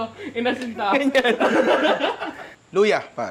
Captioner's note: laughter